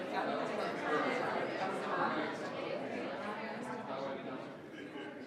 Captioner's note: group quietly conversing